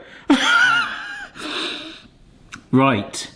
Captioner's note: chuckles